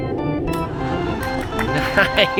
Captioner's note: baseball fanfare plays; crowd cheers; chuckling